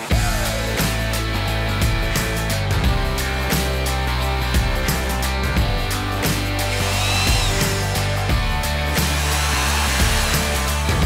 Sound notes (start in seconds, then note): 0.1 upbeat music; 7.1 saw revving